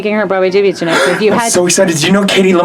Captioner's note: gasps